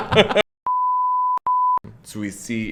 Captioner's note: both laugh; electronic beeping